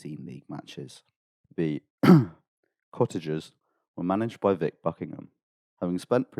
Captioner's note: ahem